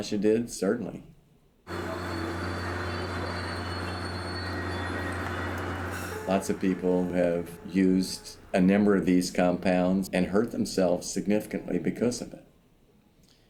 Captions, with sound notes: Certainly. (train brakes squeal) Lots of people have used a number of these compounds and hurt themselves significantly because of it.